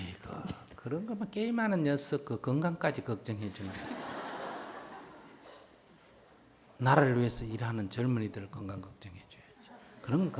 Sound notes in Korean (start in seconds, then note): 3.6 청중 웃음